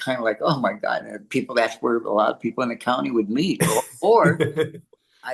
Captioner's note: laughs